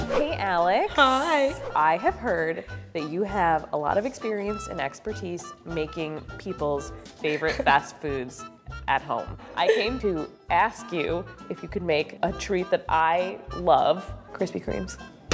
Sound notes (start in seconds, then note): 9.4 giggling